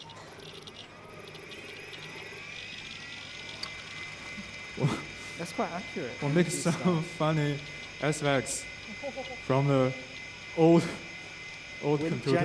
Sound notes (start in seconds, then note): 0.1 text beeping; 3.1 computer beeping